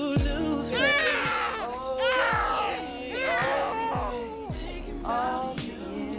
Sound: baby crying dramatically

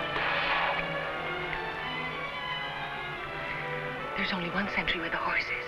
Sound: lips smacking

